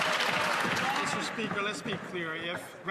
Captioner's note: some Applause